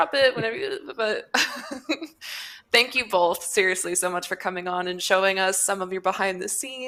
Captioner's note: laughs